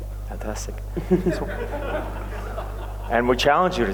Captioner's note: laughter